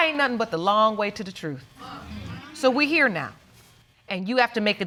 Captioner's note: audience agreeing